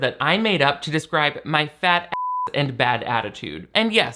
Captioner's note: beep